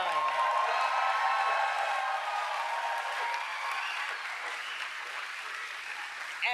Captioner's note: applause